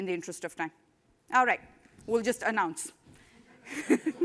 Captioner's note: laughter